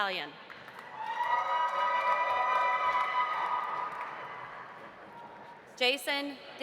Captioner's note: audience applauding; audience cheering